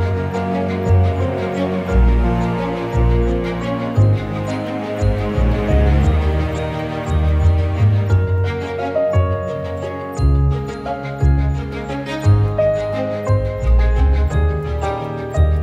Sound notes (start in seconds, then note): none